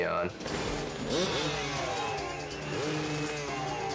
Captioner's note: engine growls